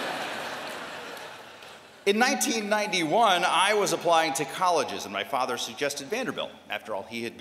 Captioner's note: laughter